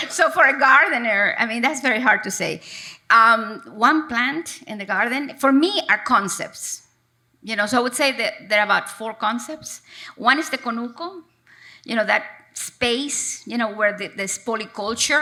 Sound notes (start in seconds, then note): none